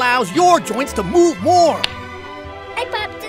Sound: pop!

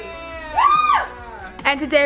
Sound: cheering

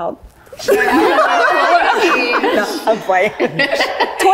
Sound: all laughing

